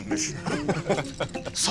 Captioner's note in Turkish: Gülme sesi